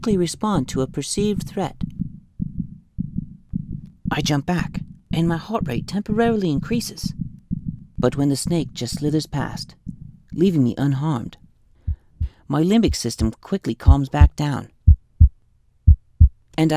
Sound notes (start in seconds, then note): 7.5 fast heartbeat; 15.8 heartbeat slows down